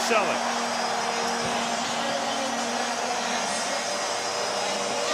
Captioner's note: cheering